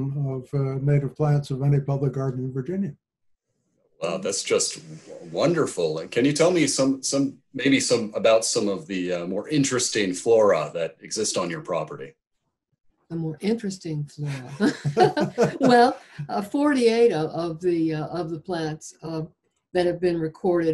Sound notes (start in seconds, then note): 14.4 both laugh